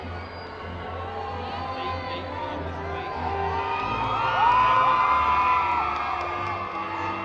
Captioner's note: crowd cheering